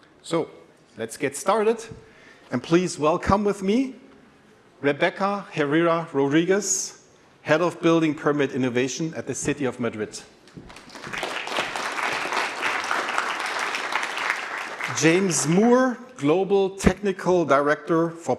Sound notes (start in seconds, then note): 10.6 applause